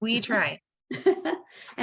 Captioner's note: laughing